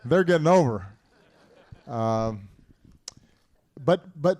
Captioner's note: laughter